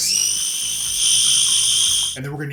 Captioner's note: processor whirring